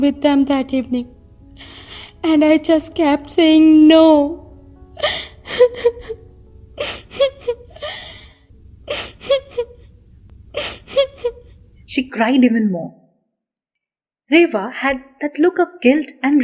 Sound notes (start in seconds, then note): 7.8 crying